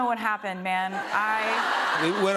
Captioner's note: laughter